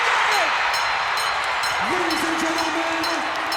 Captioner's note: audience applauds and cheers; bell rings